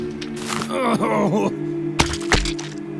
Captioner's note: groaning